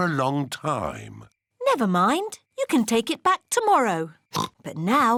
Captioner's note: oinks